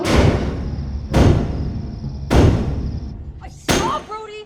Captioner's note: mysterious knocking